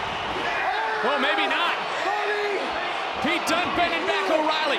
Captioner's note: wrestler screams